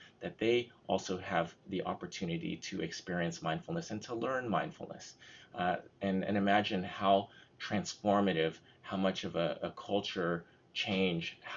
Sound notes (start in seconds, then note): none